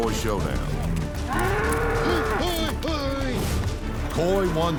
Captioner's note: buffalo bellowing